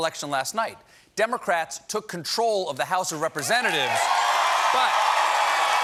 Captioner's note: cheers and applause